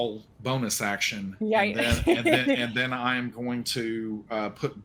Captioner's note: laughs